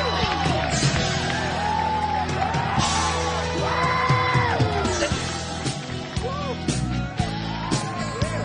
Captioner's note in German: Applaus